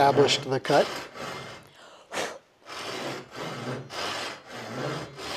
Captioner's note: breathing